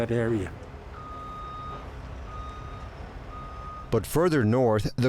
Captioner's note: vehicle beeps